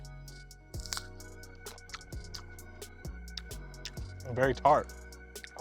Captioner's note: cranberry crunching